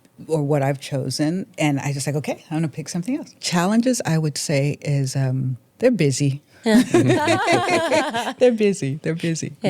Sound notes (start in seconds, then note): 6.8 laughing